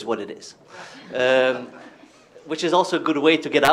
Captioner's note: laughter